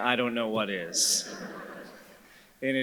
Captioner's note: audience chuckles